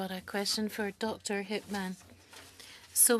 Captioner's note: speaking French